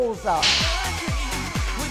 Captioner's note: snapping sound